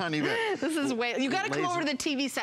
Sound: laughter

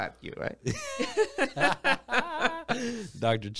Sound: both laugh

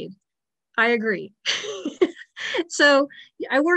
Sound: chuckles

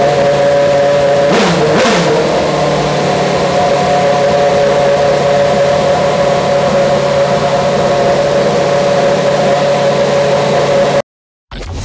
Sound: F1 engine revving

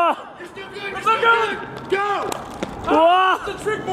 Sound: surprised cheering

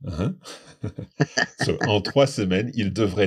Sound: laughs

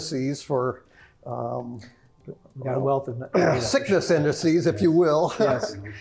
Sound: laugh

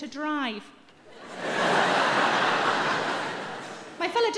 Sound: audience laughing

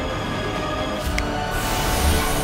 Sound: snaps

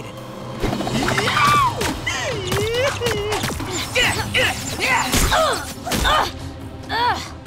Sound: grunting

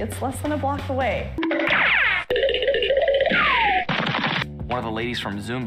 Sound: cartoon running noises

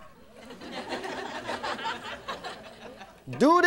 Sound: laughing

